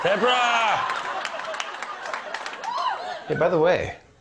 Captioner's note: crowd laughing